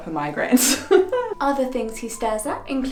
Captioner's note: laughs